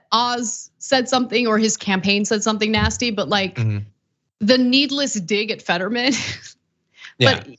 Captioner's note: laugh